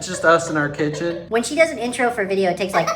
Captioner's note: in chipmunk voice